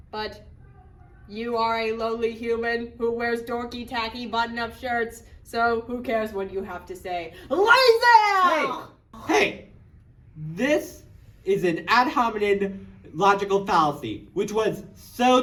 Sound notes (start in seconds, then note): 7.5 ridiculous accent